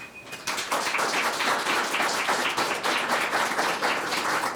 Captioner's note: audience clapping